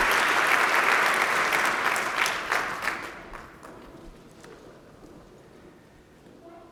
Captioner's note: applause